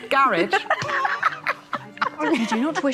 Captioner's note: both laughing